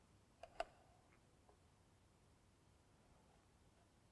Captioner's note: mouse clicking